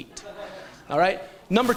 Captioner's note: laughter